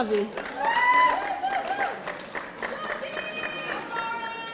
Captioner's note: audience applauding